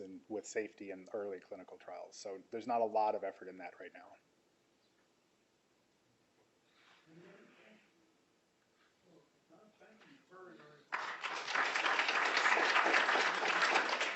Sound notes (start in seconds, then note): 10.8 applause